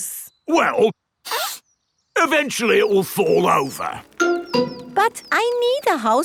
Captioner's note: sniffs